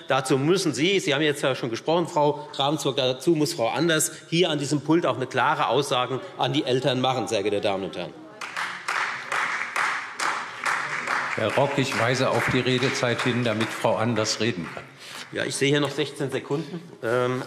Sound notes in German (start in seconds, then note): 8.3 Beifall Freie Demokraten